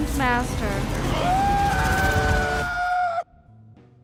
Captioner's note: screaming